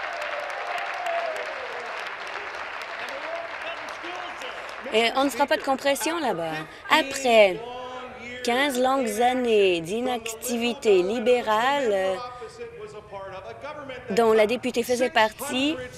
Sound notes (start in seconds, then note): 0.0 cheers; 0.0 applause